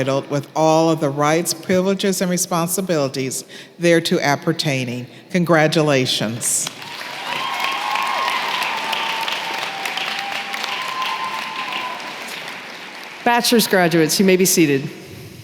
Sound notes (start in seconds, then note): 6.6 applause